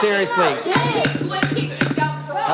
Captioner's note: crowd Noise; shouting